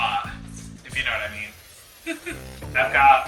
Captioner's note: laughs